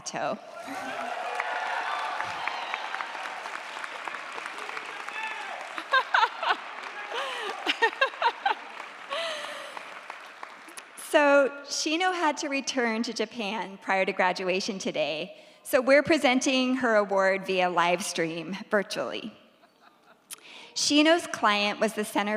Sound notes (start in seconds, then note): 0.1 audience applauds; 5.7 professor laughs